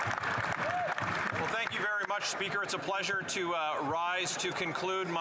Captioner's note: some Applause